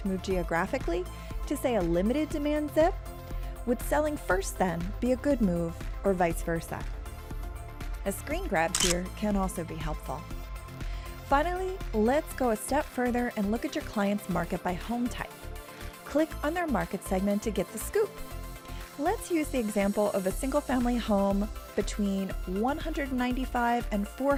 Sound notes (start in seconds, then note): 8.6 camera shutter sound